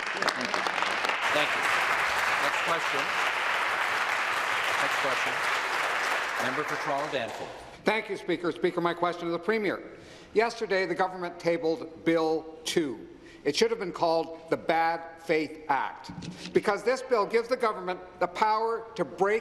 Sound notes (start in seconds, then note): 4.1 applause